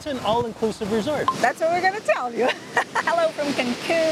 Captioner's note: laughs